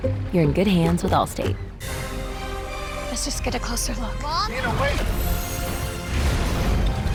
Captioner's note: lightning strikes